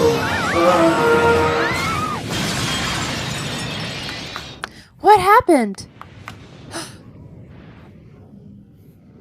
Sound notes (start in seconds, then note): 0.0 designers yell; 6.6 Chief gasps